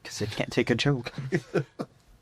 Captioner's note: laughing